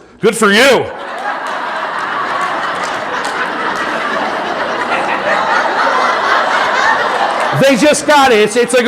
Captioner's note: audience laughing